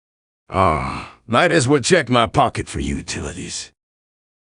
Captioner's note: sighs